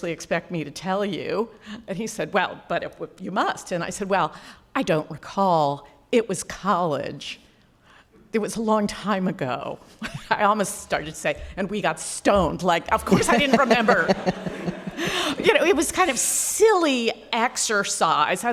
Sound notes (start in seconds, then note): 13.0 laughs